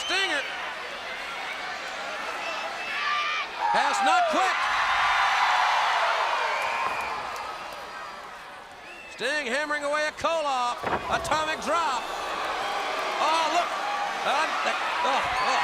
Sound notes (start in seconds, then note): 4.8 crowd cheering